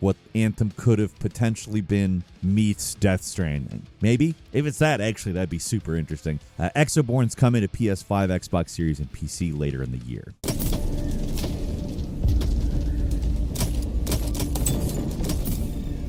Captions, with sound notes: what "Anthem" could have potentially been meets "Death Stranding." Maybe? If it's that, actually, that'd be super interesting. "Exoborne" is coming to PS5, Xbox Series, and PC later in the year. (dramatic music) (gunshots firing)